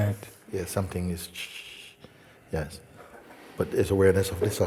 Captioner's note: makes static sound